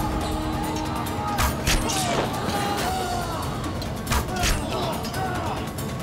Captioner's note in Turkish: Ok sesleri